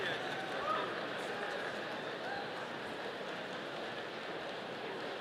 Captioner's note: audience applauding